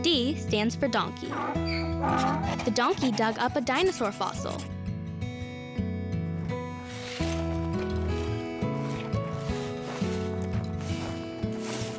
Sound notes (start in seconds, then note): 1.2 donkey brays; 6.7 rocks scraping